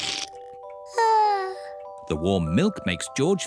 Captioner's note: yawns